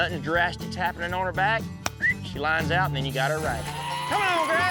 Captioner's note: whistles